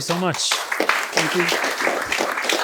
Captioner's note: applause